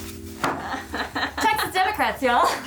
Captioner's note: laughing